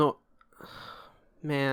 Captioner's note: sigh